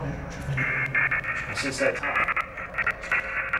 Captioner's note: buzzing